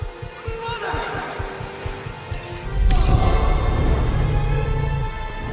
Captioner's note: heart beating